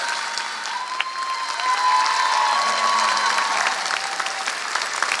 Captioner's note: applause; cheering